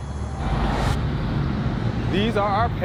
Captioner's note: vehicles driving; screen whooshes